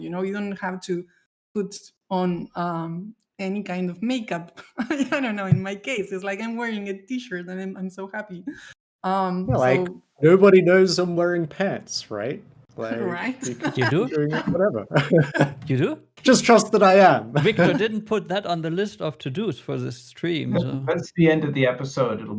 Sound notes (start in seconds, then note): 14.9 laughing